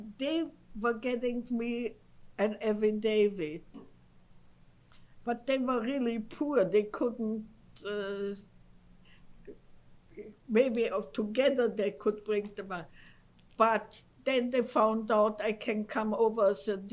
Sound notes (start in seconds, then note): 8.2 pauses for 3 seconds